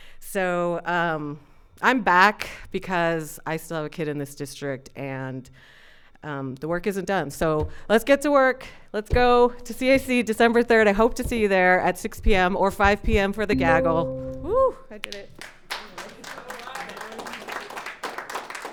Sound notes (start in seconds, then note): 13.5 bell dinging; 15.4 audience applauding